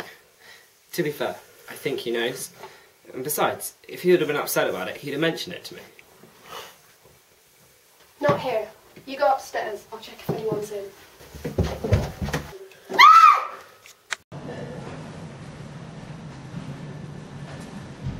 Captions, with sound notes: To be fair, I think he knows. And besides, if he'd have been upset about it he would have mentioned it to me. Not here. You go upstairs, I'll check if anyone is in. (scream)